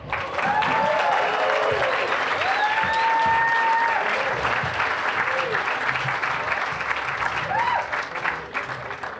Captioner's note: applause, cheering